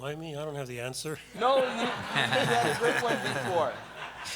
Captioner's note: laughter